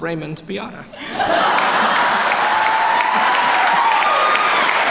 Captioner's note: laughter and applause